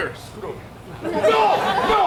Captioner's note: audience laughs